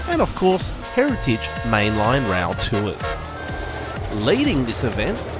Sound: train horn honking

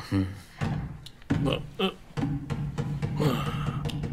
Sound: knocking Door

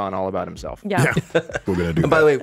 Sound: Jon laughs

